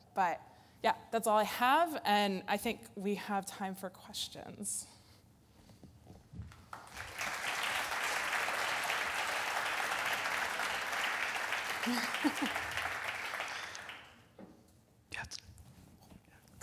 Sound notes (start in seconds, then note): 6.7 audience applause